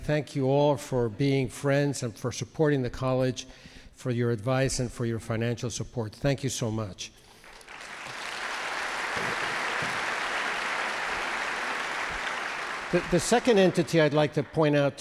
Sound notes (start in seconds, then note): 7.4 audience applauds